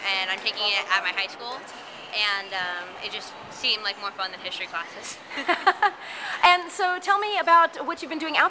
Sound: laughter

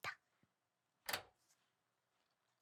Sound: 가스레인지 불 끄는 소리

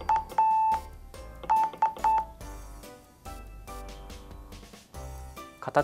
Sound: morse Code sound

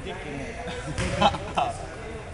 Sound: laughs

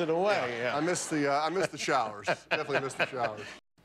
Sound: laughter

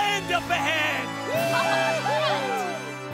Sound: cheering

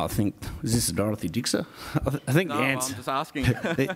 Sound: laugh

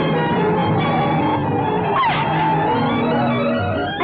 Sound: tires squealing

